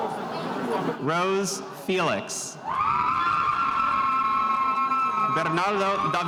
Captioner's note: spectators cheering